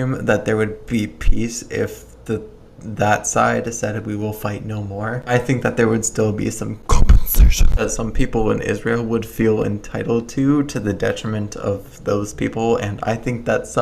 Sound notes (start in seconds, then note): 6.6 distorted voice